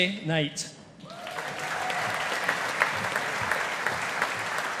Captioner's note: audience applauding